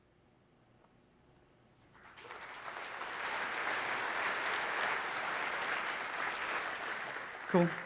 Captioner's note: applause